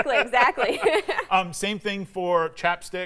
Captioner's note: laughs